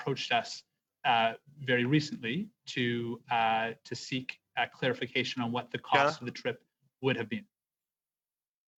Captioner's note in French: voix de l'interprète